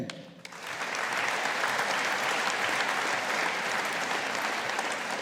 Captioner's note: audience applauding